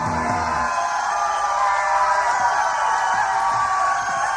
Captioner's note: crowd cheers